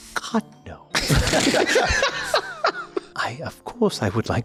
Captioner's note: laughs